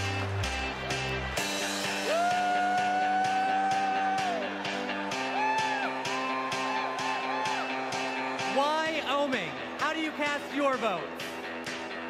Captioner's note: cheers and applause